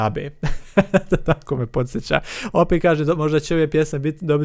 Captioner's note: laughs